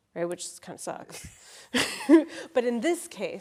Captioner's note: all laughing